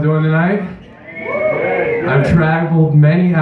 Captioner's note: loud Cheering